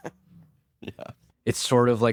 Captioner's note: laughs